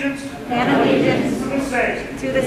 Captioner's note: crowd